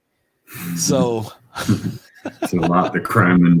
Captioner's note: laughs